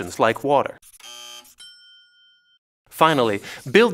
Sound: buzzer; dings

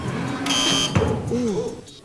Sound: buzzer buzzing; ball bouncing

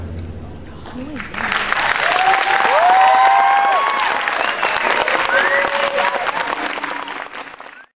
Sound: cheering and Applause

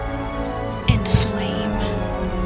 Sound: heartbeat

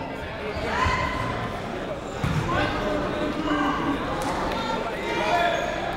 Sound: people shouting in the crowd

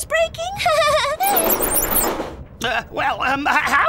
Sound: train wheels squeeking

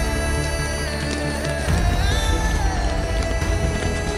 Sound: footsteps approaching

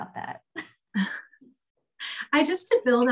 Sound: laughs

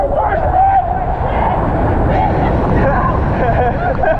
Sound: waves crashing; laughing

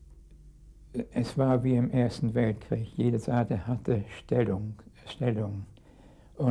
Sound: speaking in a foreign language

